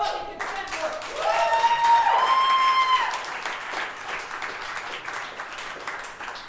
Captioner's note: audience cheering and clapping